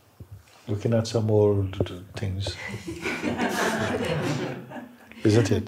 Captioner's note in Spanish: risas